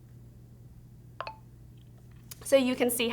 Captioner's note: speech ending button noise